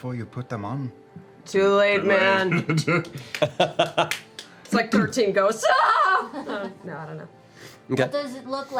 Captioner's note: screams